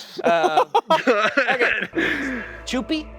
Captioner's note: laughing